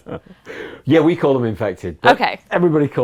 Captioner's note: laughter